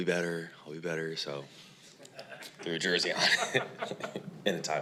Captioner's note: laughs